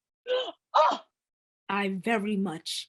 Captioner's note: gasps